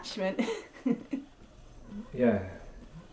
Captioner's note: Jessica laughs